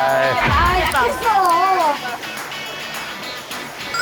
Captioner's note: loud splash, but missed the mark